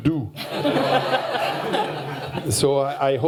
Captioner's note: laughter